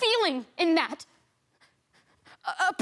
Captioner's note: heavy breathing